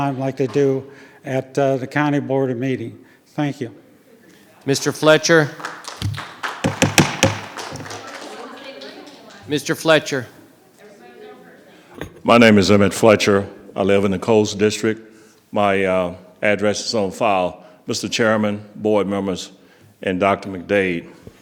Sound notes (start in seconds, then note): 4.7 audience applauding; 11.0 audience chattering